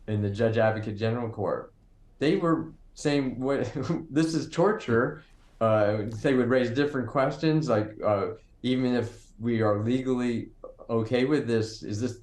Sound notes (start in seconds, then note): 3.6 chuckling